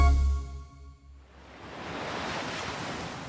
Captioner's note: waves